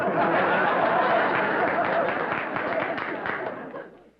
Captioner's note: laughter